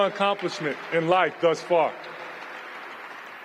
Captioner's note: applause